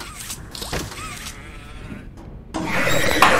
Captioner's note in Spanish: Gruñido; grita